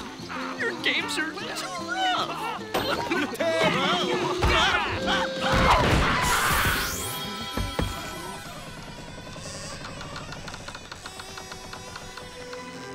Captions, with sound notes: Your games are too rough. Tag! [screaming] [knocking] [wood creaking]